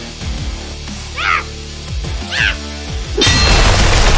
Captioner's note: Xu Xang grunting; explosion booming